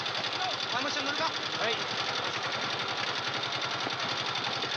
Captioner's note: speaking Japanese